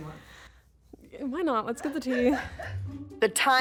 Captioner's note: producer laughs